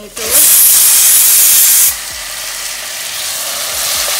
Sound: pan sizzling

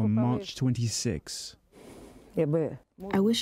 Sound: through translator

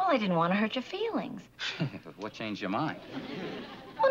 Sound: laughs

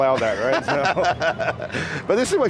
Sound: laughing

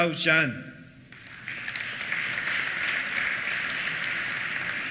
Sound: applause

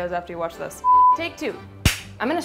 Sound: screen beeps

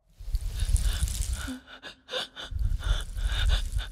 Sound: snake slithering

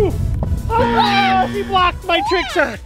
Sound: buzzer

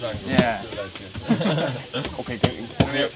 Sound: caps laughs

